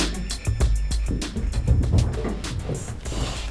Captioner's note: running footsteps; hazel hisses